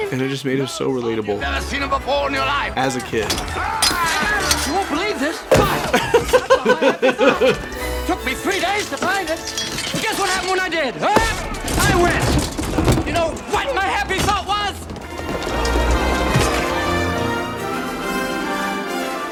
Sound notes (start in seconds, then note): 6.2 bonk